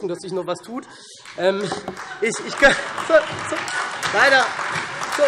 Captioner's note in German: Beifall SPD und Freie Demokraten